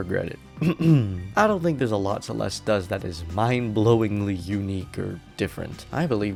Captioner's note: ahem